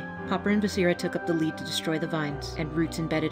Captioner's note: none